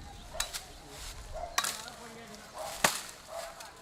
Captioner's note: beating